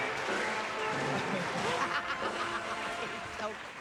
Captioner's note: laughs loudly